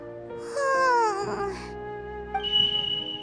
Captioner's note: sigh